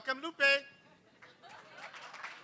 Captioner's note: laughter; applause